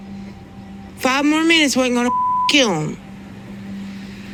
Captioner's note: beep